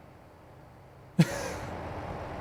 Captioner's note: laugh